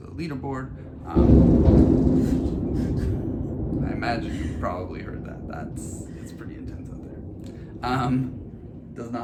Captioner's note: very loud thunder